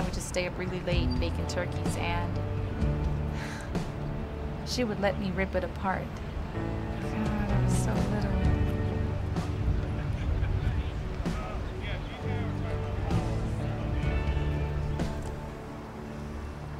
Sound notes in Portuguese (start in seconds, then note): 10.9 conversa da multidão; 12.1 música de guitarra lenta